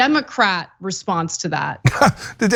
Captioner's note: laugh